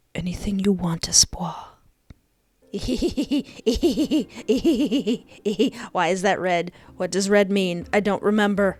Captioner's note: gremlin laughter